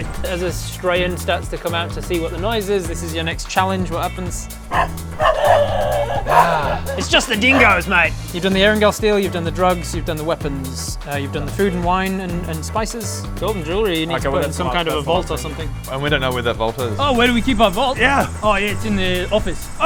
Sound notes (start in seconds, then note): 4.6 woof woof woofwoofwoof